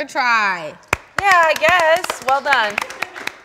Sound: cast claps

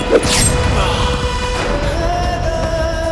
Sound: groans

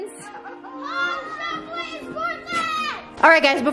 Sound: children shouting

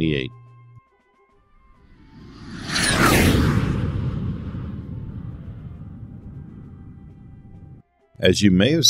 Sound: jet Whoosh Sounds

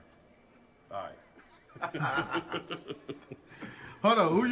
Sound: laughing

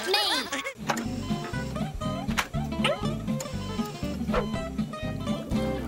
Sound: beeping

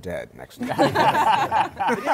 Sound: laughter

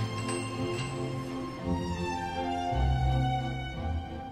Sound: shop bell dinging

